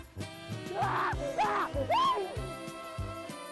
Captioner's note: screaming